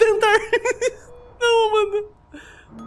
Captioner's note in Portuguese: risos